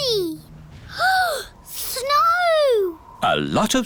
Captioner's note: gasps